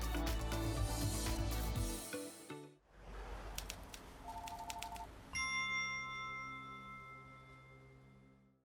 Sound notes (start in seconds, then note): 0.0 upbeat music; 4.3 phone ringing; 5.4 bright dinging